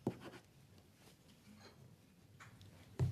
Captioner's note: speaking French